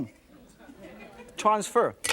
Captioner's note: laughter